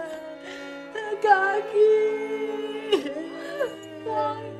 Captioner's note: crying